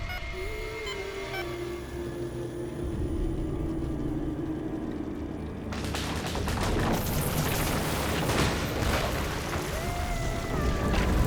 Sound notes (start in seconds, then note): 0.0 beeping; 4.8 ceiling cracking; 6.2 flames roaring